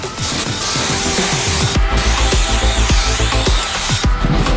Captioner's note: spraying noise